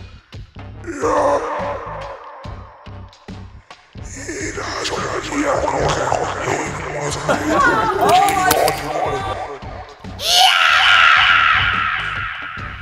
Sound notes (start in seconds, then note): 0.8 groaning; 4.3 in foreign language; 7.5 laughing; 10.4 shrieking